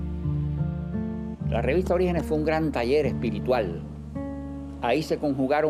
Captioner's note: speaking Spanish